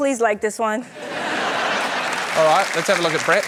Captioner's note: laughter